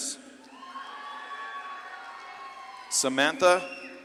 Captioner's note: audience claps and cheers